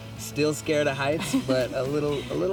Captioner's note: laughs